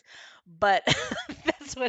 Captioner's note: laughs